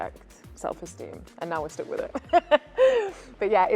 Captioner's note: laughs